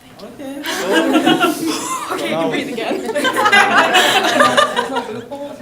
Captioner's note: laughter